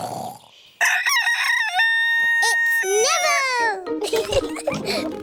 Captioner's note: neville crows; both giggling